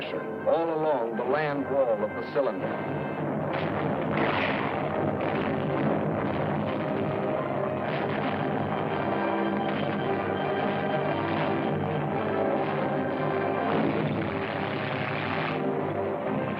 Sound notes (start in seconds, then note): 3.4 heavy gunfire